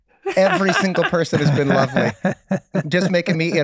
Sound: Charlie laughs; Meg laughs

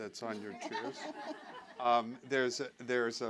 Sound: laughter

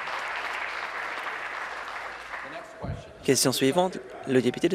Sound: applause

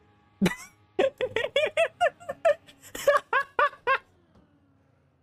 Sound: laughs

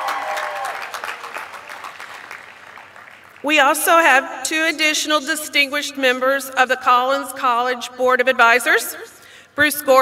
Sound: applause

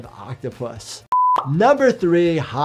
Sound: video beeping

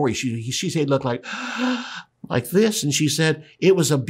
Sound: gasps

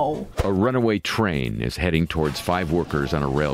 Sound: voice-over

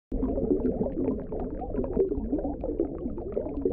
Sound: bubbles

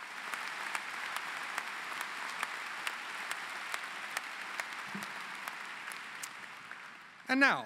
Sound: applause

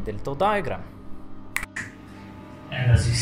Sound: finger snap

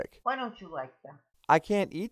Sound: voiceover

